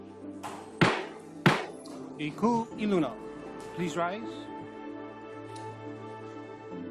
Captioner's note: gavel bangs twice